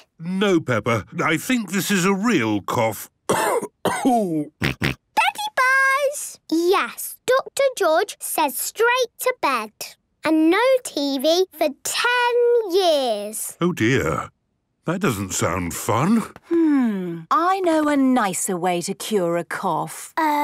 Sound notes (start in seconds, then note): 3.2 cough; 4.4 snort